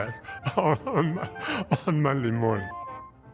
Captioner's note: laughs